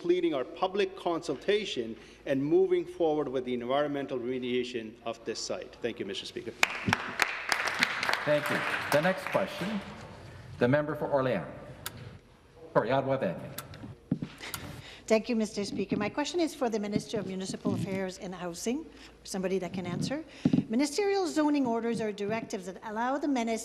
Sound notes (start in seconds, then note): 10.1 some Applause